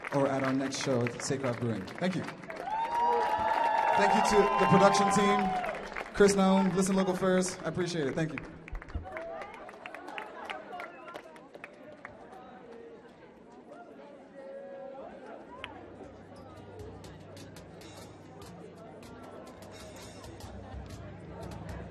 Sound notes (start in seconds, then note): 2.4 audience cheering; 11.3 audience chattering